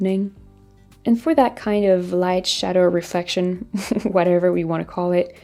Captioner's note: chuckling